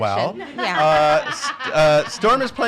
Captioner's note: laughing